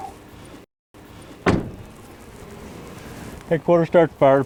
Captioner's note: door slamming